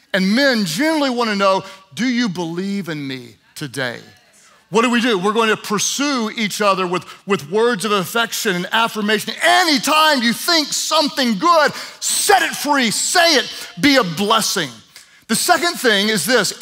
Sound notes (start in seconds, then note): none